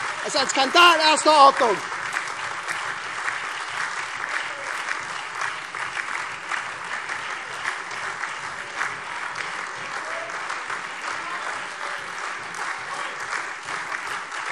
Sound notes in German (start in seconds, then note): 2.9 Anhaltender lebhafter Beifall SPD, AfD, Freie Demokraten und LINKE